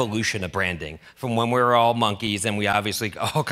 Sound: laughs

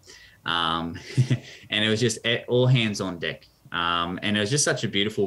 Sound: laughs

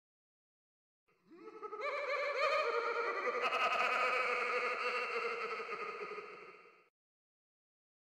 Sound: clown laugh

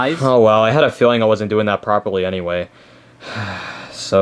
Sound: sighing

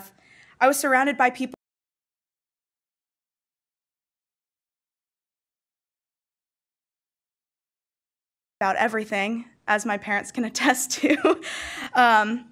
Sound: audio dropout

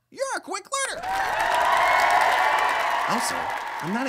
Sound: cheer/applause

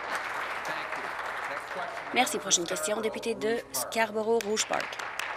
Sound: applause

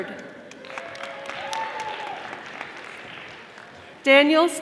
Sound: audience applauding

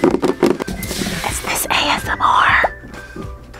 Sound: whispers

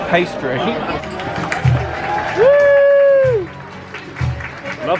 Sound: guests cheer and applaud

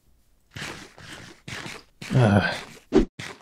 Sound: munching

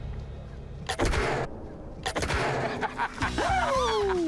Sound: gun shots; laughs

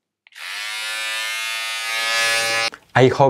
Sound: razor buzzes

